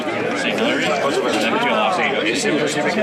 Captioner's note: speaking Spanish